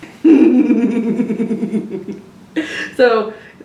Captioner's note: laughs